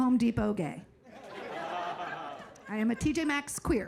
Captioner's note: audience laughing